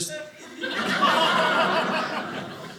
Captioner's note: audience laughing